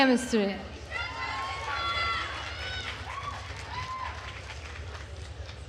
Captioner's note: attendees cheering and applauding